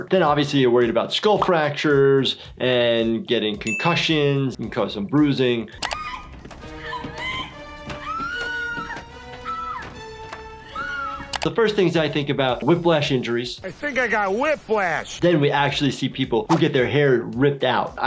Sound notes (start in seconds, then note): 6.2 screams; 10.6 screaming